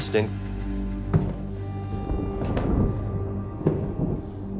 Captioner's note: footsteps